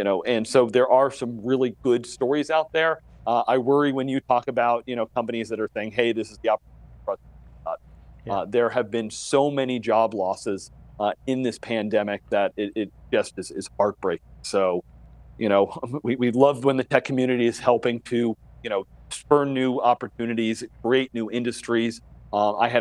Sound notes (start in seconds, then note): 6.8 sound cuts out